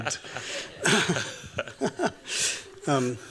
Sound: laughs

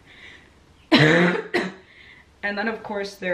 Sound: coughing

